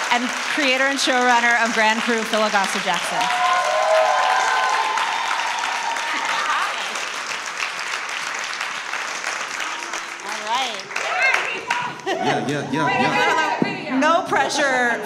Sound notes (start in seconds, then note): 3.2 audience applauds; 11.8 laughs